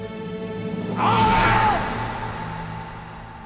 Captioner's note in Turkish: Bağırma sesi